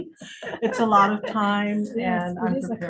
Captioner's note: interviewers laughing